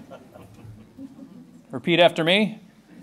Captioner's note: laughter